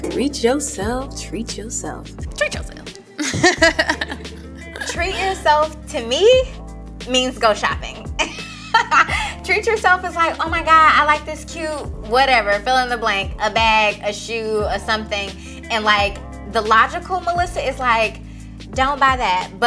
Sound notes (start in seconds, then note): 3.2 laughs; 8.7 laughs